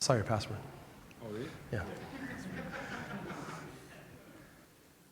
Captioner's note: laughter